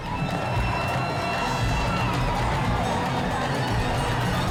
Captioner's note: people shouting